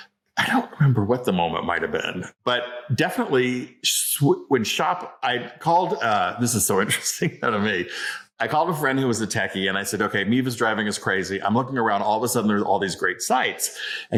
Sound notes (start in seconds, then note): 7.7 laughs